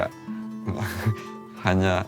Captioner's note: laughs